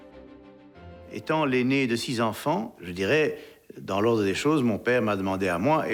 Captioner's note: speaking in foreign language